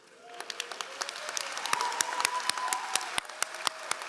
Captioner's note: all applauding